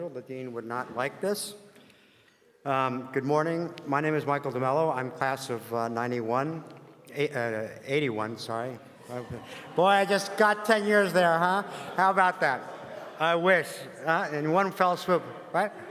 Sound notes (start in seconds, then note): 11.6 laugh